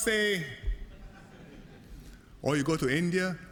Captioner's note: laughter